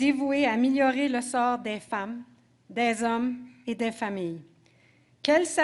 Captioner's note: speaking French